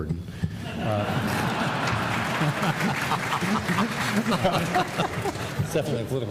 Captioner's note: laughter